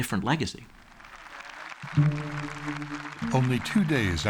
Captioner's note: applause